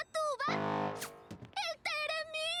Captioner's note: blast